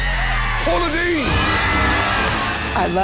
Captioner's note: screaming